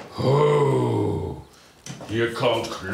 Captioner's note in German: Grusel-Laut